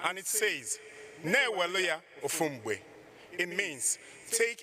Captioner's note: speaking in foreign language